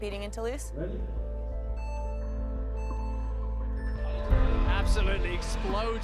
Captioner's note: clock chiming